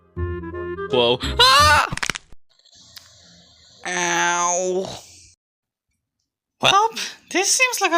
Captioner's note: falls to the ground, bone crack sfx